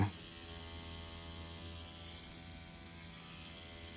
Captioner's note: machine whirring